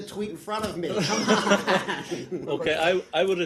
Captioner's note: laughter